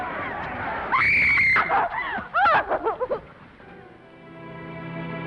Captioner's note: Esther screams; somber music